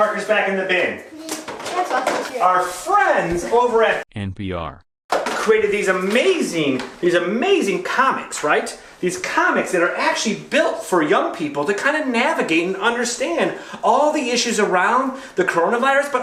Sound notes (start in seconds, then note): 4.1 automated Voice